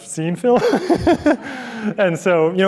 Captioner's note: chuckles